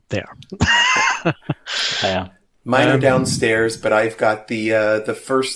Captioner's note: laughter